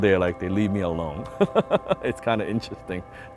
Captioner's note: laughs